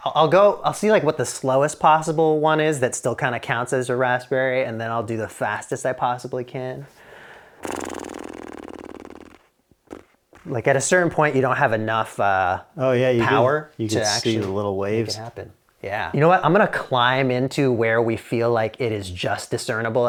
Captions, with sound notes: I'll go, I'll see like what the slowest possible one is that still kind of counts as a raspberry. And then I'll do the fastest I possibly can. (blows raspberry) Like at a certain point, you don't have enough power to actually make it happen. - You can see the little waves. - Yeah, you know what? I'm gonna climb into where we feel like it is just discernible